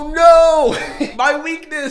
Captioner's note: snickers